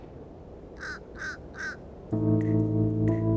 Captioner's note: bird cawing; pensive music